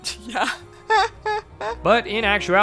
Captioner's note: laughs